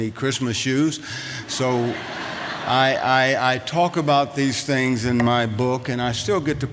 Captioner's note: laughter